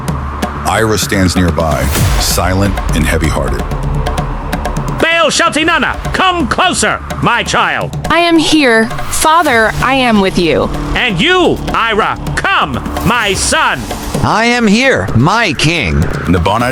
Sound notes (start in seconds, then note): 4.2 whispering; 8.0 through tears